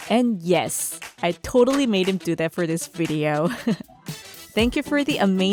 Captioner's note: laughs